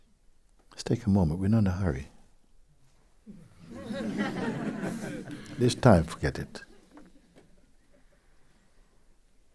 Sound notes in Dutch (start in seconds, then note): 3.6 gelach